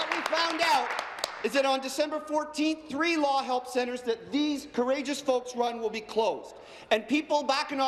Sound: applause

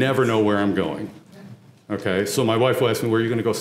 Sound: laugh

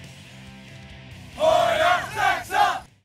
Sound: chanting

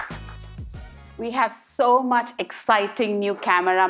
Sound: cheers and Applause

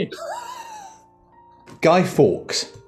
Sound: sniggering

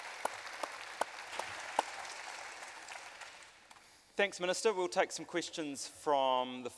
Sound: applause

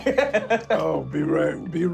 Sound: laughing

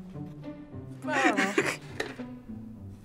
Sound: snickering

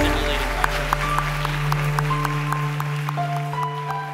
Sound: applause

